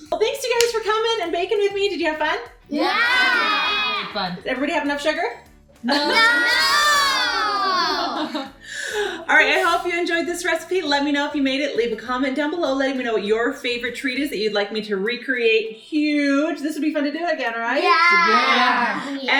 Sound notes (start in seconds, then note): 7.3 laughing